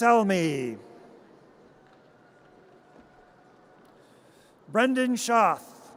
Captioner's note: audience cheers